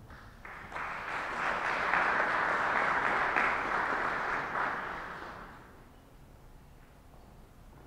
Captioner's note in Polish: oklaski